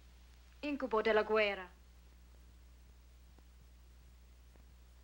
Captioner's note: Maria speaking in Italian